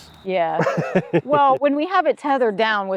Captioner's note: laughs